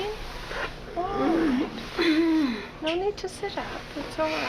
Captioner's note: groaning